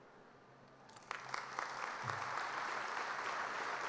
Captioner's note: applause